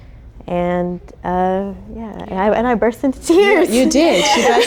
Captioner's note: laughing